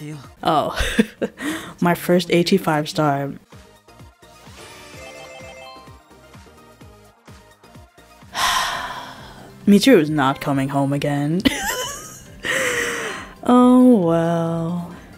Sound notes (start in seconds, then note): 8.3 sigh; 12.4 deep breath